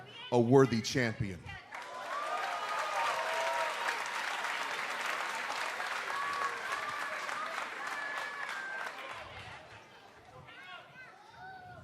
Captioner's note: cheers and applause